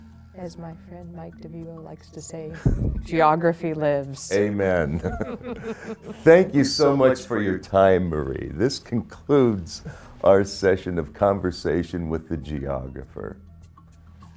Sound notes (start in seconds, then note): 4.8 both laughing